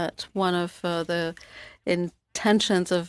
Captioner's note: speaking French